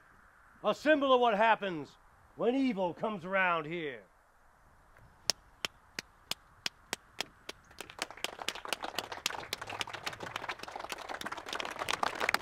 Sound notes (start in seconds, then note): 5.2 claps; 9.2 crowd clapping